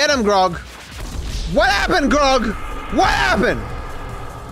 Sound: shouting

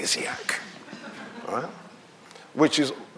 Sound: audience laughing

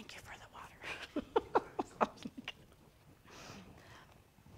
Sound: laughing

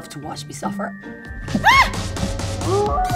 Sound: screaming

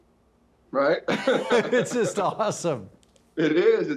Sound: laughs

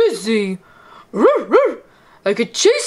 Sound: barks

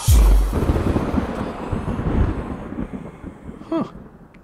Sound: thunder roaring

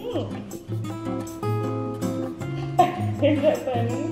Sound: laughing

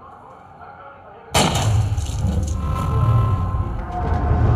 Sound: gun firing

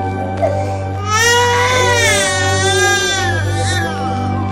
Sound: wails

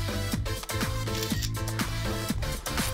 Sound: phone camera shuttering

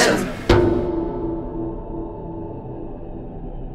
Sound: bell tolls

